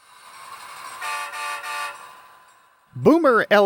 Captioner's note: 3 horn blasts